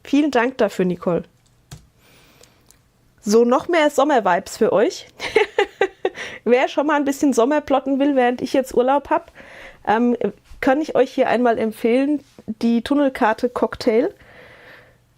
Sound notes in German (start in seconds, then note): 5.2 Gelächter